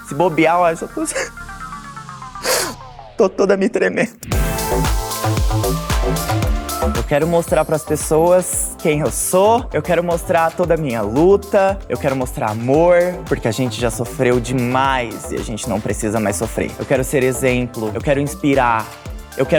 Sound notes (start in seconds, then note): 2.4 crying; 4.6 electronic music